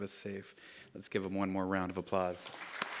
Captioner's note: clapping